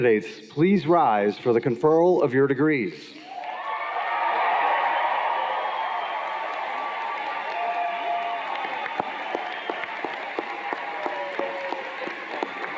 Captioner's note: cheers and Applause